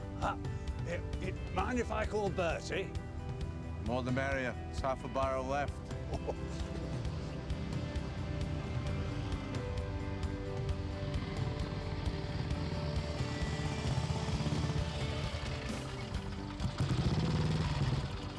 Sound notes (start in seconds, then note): 5.9 chuckles; 7.9 engine rumbling; 7.9 upbeat music